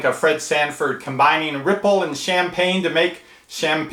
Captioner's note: none